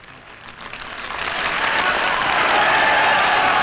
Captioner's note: clapping